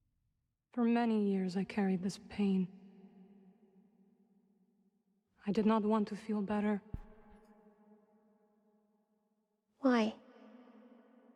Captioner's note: silence